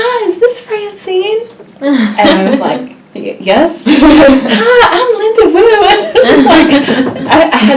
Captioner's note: laugh